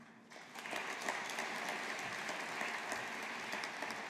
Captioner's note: audience applauding